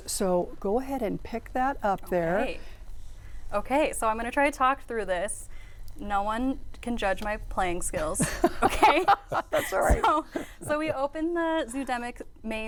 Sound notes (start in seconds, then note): 8.2 crowd laughing